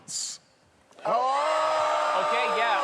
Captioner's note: cheering